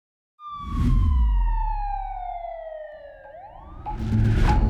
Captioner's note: siren wailing